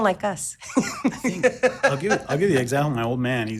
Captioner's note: laughs